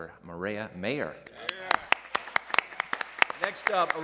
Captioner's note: applause